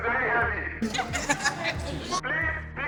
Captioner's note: laughs